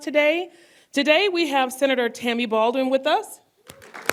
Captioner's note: applause